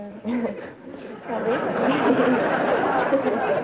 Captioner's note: laughter